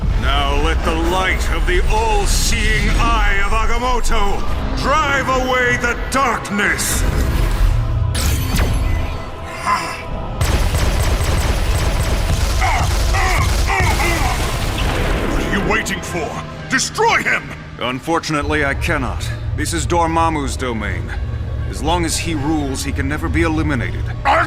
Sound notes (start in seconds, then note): 10.4 laser shots